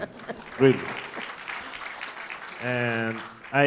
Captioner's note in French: applaudissements